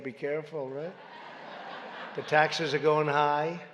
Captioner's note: laughter